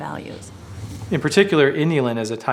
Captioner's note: whooshing